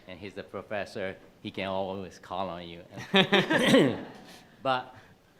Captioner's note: attendees laughing